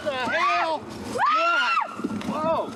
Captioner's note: screams